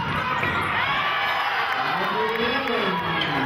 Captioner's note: cheering